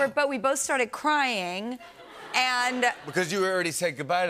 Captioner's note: laughter